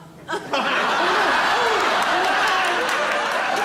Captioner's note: audience laughs